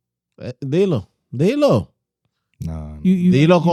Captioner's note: speaking In Foreign Language